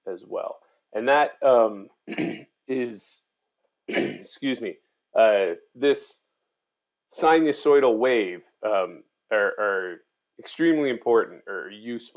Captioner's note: clear throat